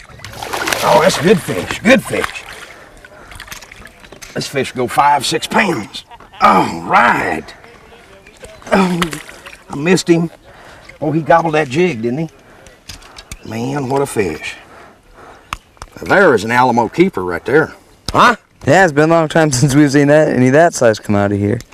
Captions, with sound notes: [splash] Oh! this is a good fish, good fish [splash] this fish will go 5, 6 pounds ALL RIGHT! oh! I missed him oh he gobbed that jig didn't he Man what a fish Now there is an alamo Keeper right there huh? Yeah it's been a long time sense we have seen any that size come out of here